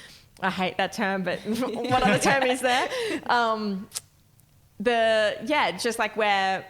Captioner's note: laughing